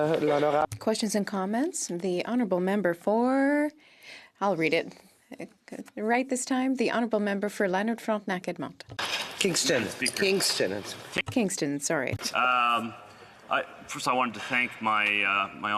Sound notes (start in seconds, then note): 4.7 speaking French